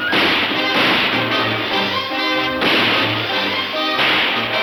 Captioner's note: dramatic instrumental music; guns firing